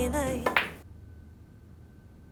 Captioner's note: snooker balls clacking